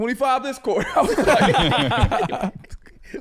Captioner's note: all laughing